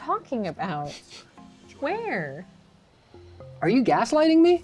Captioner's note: laughs